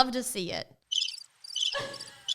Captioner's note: bird chirping; Justine laughing